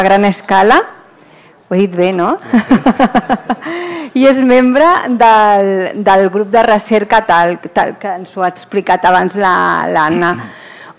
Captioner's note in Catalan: riures